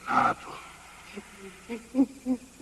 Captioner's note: wheezing